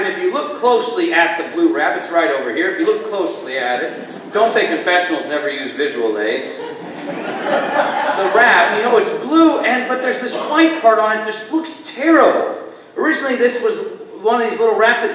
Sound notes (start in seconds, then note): 6.2 congregation laughter